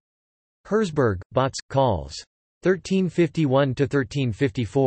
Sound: in German

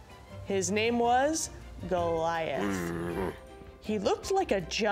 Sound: Goliath grunting

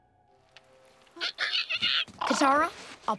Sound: squeaking

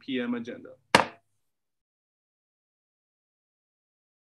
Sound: gavel bangs

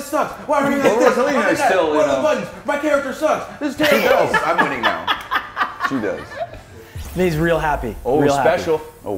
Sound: laugh

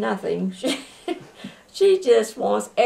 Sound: laughter

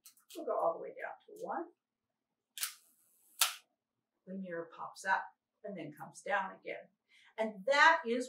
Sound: camera clicks as mirror moves

